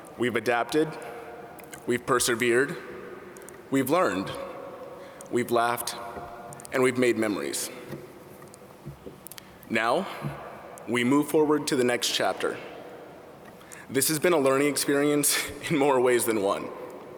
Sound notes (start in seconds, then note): none